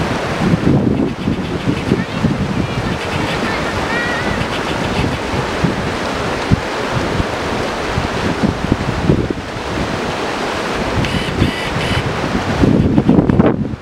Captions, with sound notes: indistinguishable- hebleshjele habbaraahraah [splashing, more wind]